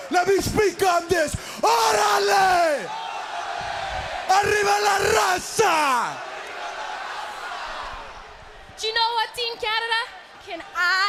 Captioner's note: speaking in foreign language